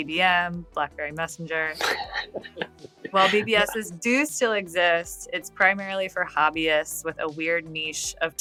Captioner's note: <Laugh>